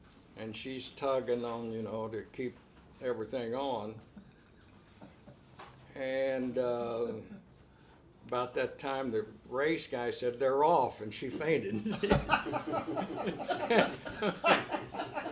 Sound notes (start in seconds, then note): 4.2 laughs; 11.8 everyone laughs